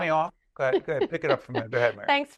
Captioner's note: laughing